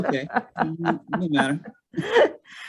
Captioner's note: laughing